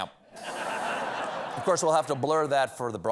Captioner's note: laughter